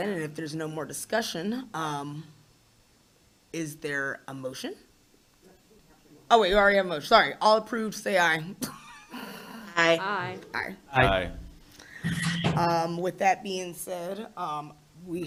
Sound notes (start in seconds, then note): 9.3 laughs